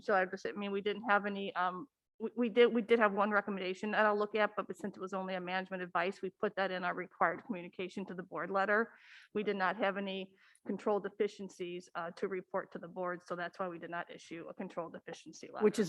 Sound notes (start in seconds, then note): none